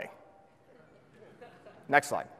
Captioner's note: audience laughs